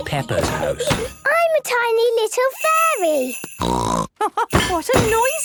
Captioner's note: snort; laugh